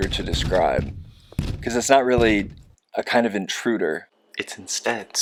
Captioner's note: knocking stops